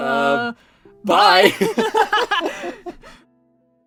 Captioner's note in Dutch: Lachen